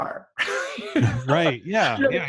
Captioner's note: laughing